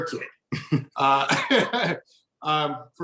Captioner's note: both chuckling